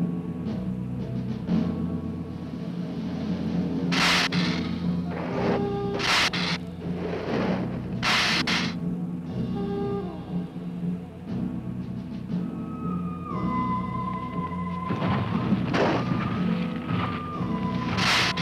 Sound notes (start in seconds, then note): 3.9 Gila monster hissing